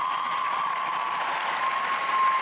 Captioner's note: cheers and applause